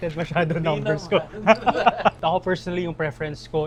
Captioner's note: laughs